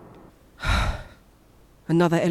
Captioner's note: sigh